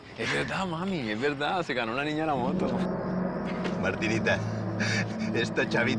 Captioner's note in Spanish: Ríe